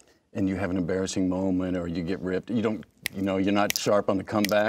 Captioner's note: snaps fingers